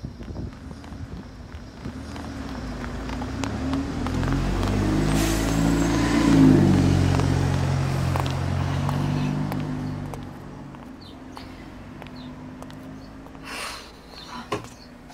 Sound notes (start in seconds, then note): 2.0 bus passes; 10.0 birdsong. footsteps